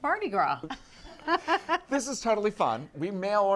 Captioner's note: woman laughs